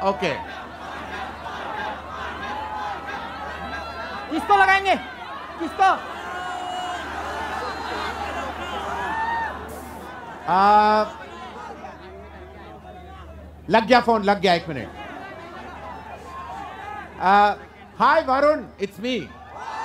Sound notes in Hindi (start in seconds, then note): 1.5 चियरिंग; 6.3 चियरिंग